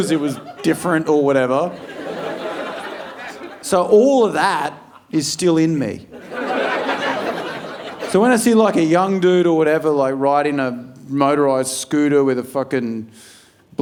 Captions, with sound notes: Just 'cause it was different or whatever. So all of that is still in me. (audience laughing) So when I see like a young dude or whatever, like riding a motorized scooter with a fucking,